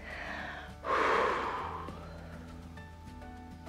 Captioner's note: inhales and exhales